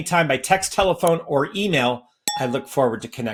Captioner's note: bell rings